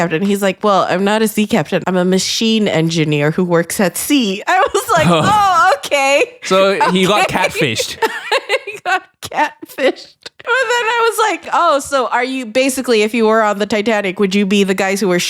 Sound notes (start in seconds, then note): 6.4 laughing; 7.4 giggles